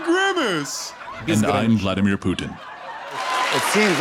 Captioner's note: speaking Russian